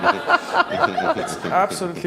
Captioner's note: laughs